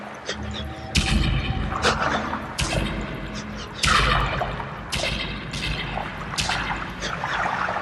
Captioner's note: banging